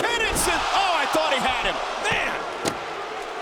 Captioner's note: crowd gasps